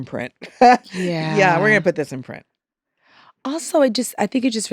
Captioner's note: chuckles